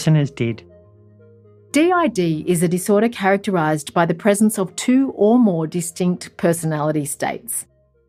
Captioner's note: voiceover